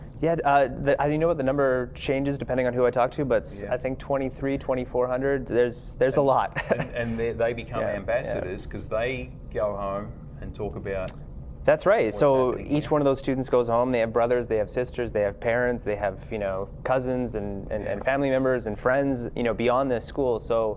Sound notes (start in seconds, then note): 6.5 laughs